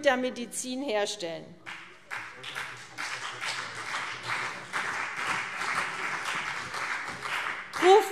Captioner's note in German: Beifall CDU und vereinzelt BÜNDNIS 90/DIE GRÜNEN